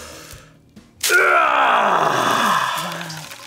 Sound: grunts

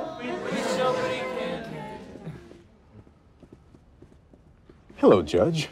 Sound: footsteps plod

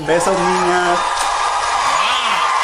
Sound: audience cheering

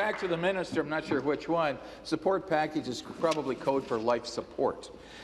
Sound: applause

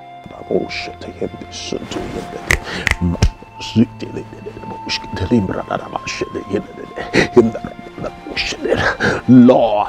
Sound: praying in Tongues

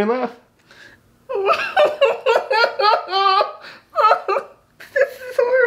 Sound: interviewee laughs

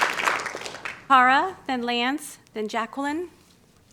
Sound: applause

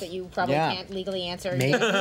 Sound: laughter

